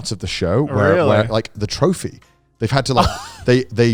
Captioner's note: laughing